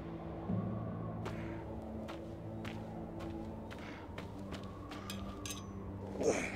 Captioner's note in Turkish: Ayak sesi; Rüzgâr sesi